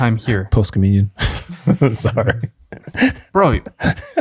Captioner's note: laughs